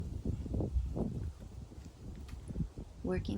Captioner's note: wind whispering